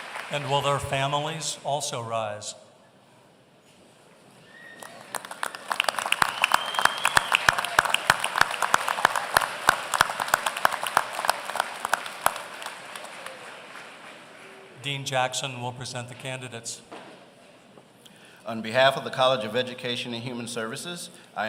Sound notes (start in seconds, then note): 4.5 applause